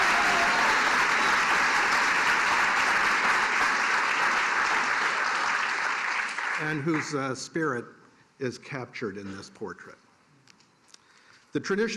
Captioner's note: cheers and applause